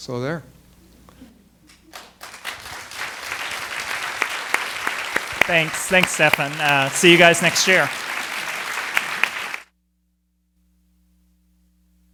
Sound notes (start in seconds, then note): 0.8 applause